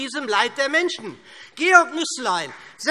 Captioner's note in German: Beifall SPD